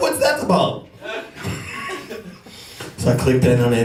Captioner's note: laughs